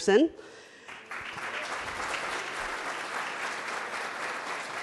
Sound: audience applauds

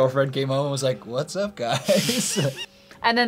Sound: laughs

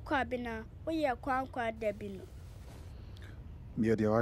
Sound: in Twi

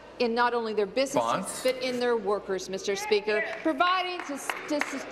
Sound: applause

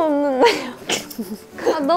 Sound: hahahaha

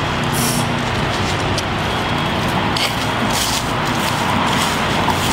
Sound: footsteps crunching

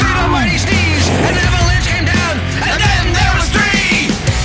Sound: aaa-chooo!; whump!

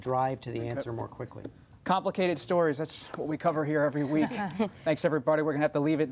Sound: laughter

